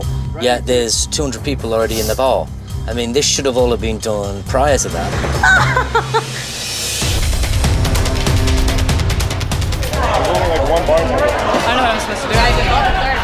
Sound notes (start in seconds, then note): 5.4 laughs; 6.9 tense music